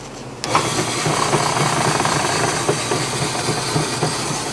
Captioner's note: machine grinds